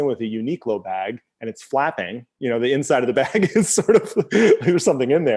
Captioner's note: laughs